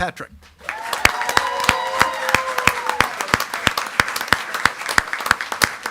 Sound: attendees clapping and cheering

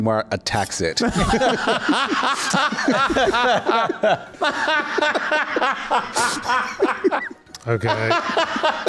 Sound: laughs

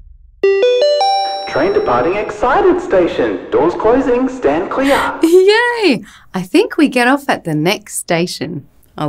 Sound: train departing excited station, doors closing, stand clear

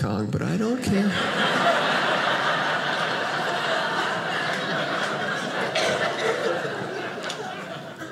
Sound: audience laughing

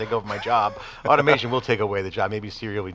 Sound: laughs

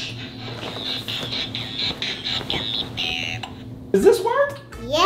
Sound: toy keeps playing

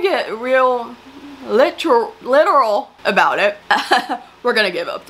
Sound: laughs

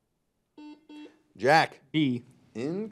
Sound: buzzer buzzes

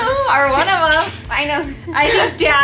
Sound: laughs

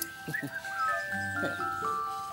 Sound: whistling

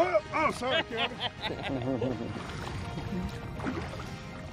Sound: laughs

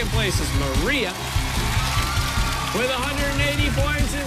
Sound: cheers and applause

